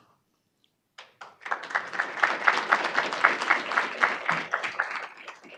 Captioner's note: audience applauding